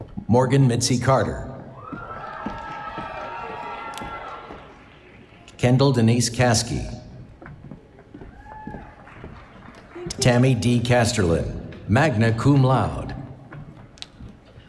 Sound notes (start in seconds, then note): 2.0 applause